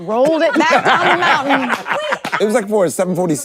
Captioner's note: everyone laughs